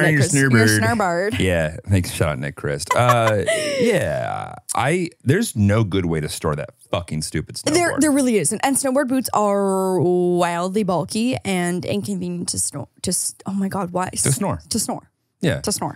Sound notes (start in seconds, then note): 2.8 laughs